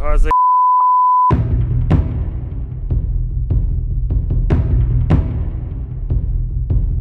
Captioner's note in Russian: бип